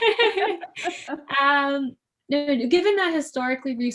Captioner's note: laughing